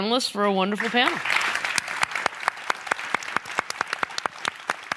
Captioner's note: applause